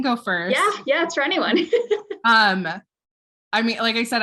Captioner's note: laughs